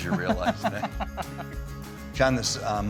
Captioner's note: both laughing